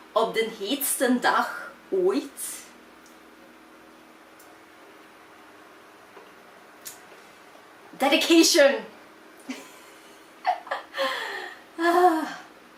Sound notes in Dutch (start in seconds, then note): 10.4 lacht